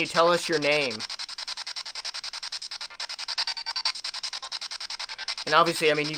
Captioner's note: scanning